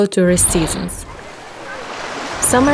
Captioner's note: water running